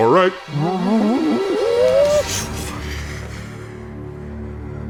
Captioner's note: muffled whooshing noises